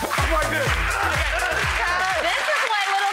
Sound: makes groaning noises

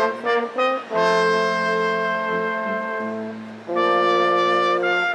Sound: none

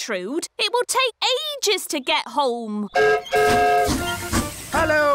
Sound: whistle blows

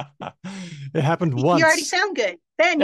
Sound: laughs

